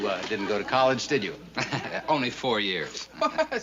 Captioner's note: chuckling; laughs